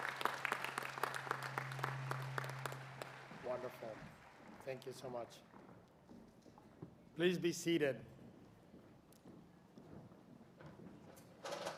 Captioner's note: applause